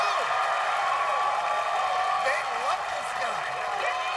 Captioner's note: cheers and applause